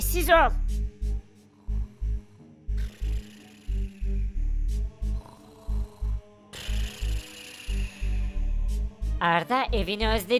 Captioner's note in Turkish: Horlama sesi